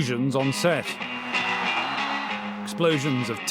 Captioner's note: cheering!